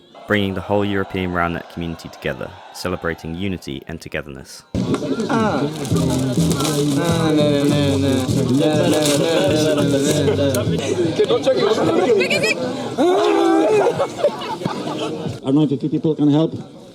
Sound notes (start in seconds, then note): 5.2 humming to music; 13.2 laughter